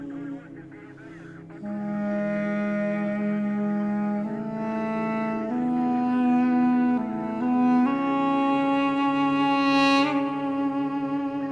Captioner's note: radio exchange from the battlefield